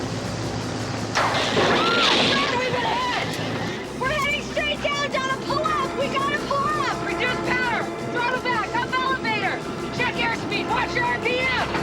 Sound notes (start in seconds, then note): 0.0 thunder crashing; 0.0 upbeat music; 0.0 electricity buzzing; 1.6 girls screaming